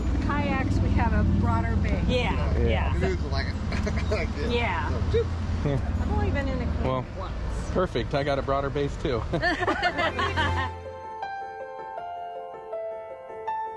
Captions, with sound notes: In kayaks we have a broader base. Yeah. Yeah. Canoes slant like this and go oop. Well, that's perfect, I've got a broader base too. [Laughing] [suspenseful music]